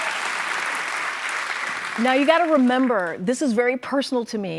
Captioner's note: cheers and applause